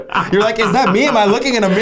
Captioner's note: laughs